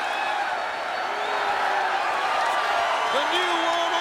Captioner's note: audience cheering